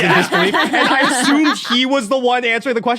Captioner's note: others laughing